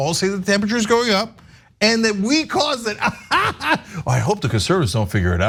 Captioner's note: laugh